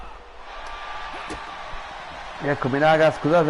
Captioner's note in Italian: Applauso